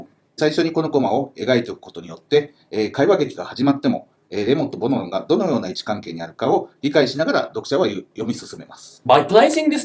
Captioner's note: speaking Japanese